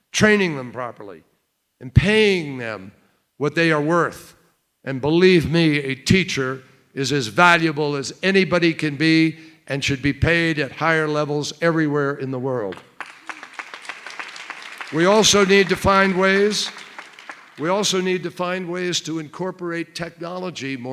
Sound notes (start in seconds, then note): 12.7 applause